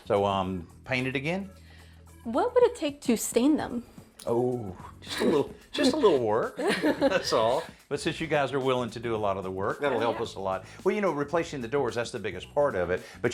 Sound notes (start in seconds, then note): 6.6 chuckles; 6.6 laughs